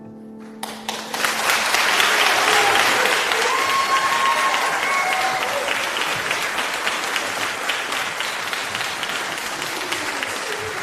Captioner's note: applause